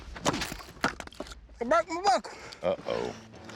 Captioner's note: chopping